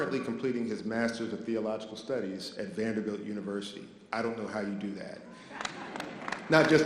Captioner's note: audience applause